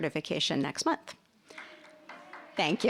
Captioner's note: audience applauding